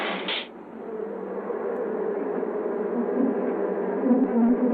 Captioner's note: bees buzzing